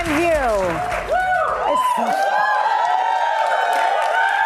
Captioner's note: audience cheering